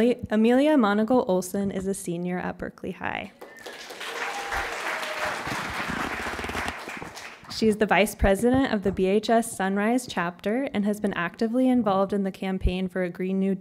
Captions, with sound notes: Amelia Monagle-Olson is a senior at Berkeley High. [CHEERING AND APPLAUSE] She is the Vice President of the BHS Sunrise chapter and has been actively involved in the campaign for a Green New